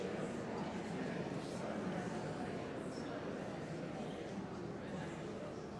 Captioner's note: indistinct audience chattering